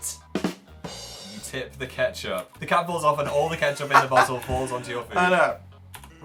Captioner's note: laughs